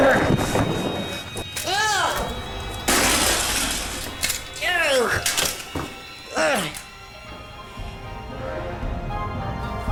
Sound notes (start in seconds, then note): 1.6 yelling